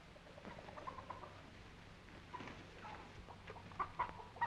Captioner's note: chickens clucking